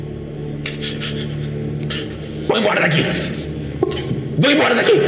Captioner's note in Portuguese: ofegante